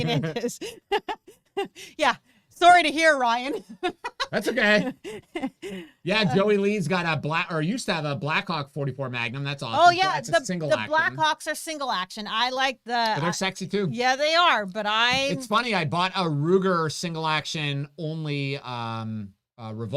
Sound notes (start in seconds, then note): 0.0 both laughing; 3.3 laughs